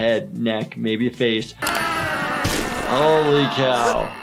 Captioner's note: animals groaning